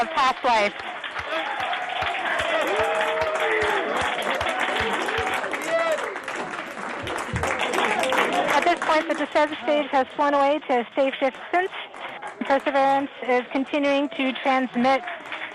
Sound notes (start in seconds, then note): 4.1 applause